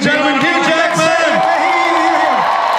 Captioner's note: audience cheers and applauds